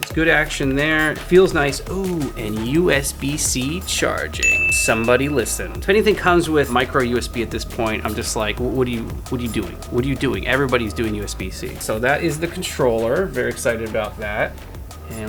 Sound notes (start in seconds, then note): 4.4 bell dinging